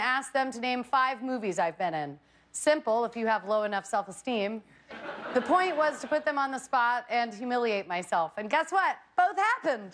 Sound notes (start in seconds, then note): 6.7 laughter